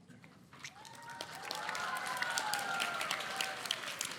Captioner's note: audience applauding